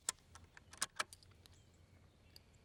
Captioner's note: click